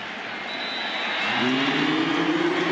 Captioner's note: whistle blows